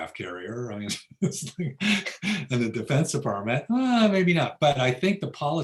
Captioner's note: laughs